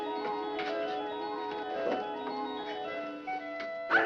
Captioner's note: dog barking